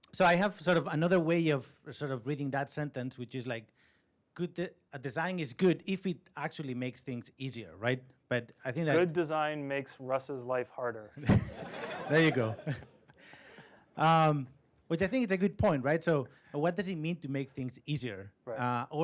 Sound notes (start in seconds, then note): 11.2 laughter